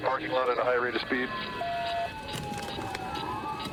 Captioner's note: sirens blaring